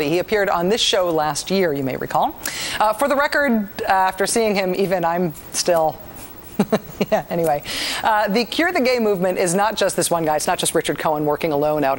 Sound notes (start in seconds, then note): 6.2 giggles